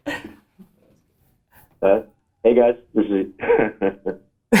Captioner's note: laughs; laughter from all